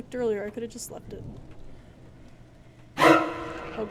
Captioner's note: breathing; suspense Noise